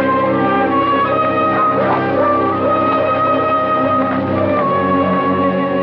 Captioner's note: dogs Barking